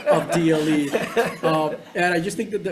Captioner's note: members laughing